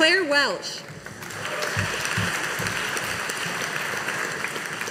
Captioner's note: audience applauding